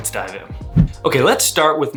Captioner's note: air whooshing